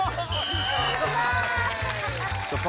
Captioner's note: blows whistle